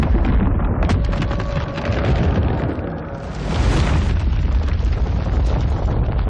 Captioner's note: ominous cracking